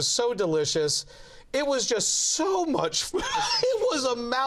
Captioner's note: laughs